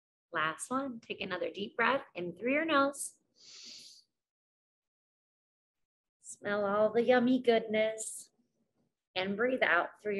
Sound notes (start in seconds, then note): 3.4 inhales